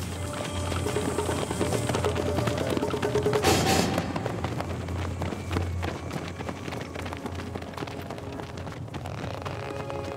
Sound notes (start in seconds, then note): 0.6 footsteps pattering